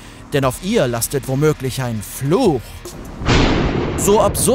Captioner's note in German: Donnergrollen